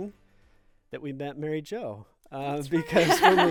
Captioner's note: group laughing